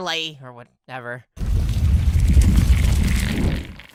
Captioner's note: ground shaking